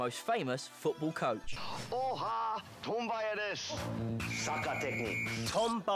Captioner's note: speaking Japanese